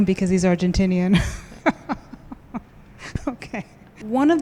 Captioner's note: laughs